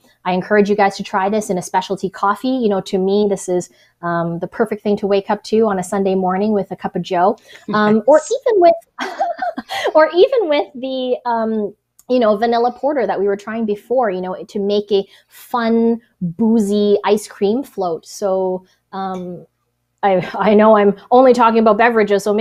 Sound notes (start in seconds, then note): 9.0 laughs